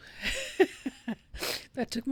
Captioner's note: chuckling, sniffling